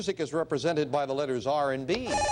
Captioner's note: beeping